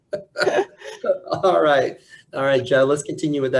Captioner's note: laughs